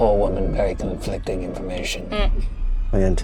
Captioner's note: chuckling